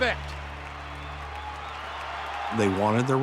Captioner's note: crowd cheering